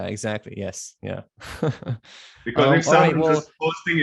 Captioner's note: laughs